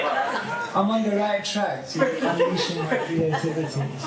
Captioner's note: laughter